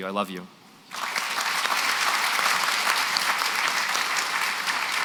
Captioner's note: applause